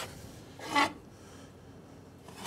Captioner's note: metallic scratching